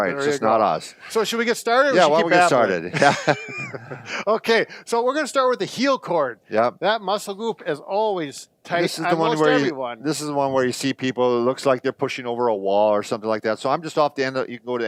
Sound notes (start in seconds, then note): 2.8 laughs